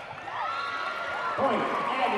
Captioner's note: whistle blowing and loud cheering